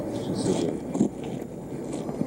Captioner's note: walking on dry grass sound